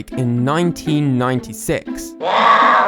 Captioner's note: growling noises